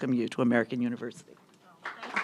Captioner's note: applause